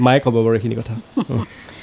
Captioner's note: chuckles